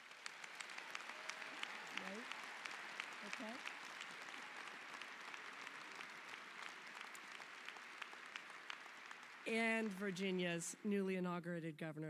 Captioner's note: applause